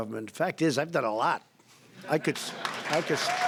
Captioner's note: laughter; applause